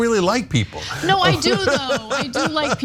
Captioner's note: laugh